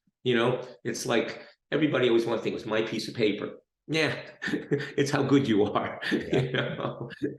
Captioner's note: laughs